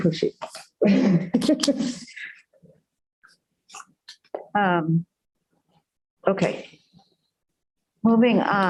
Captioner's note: laughter